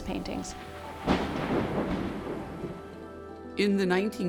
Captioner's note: lightning strikes